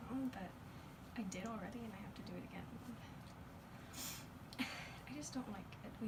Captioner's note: sniffs